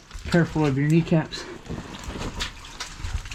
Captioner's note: none